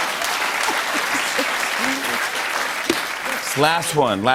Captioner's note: applause; laughter